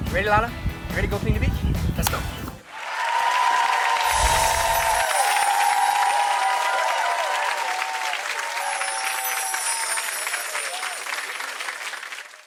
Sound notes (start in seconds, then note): 3.2 audience applause